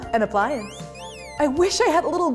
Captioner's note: pot whistles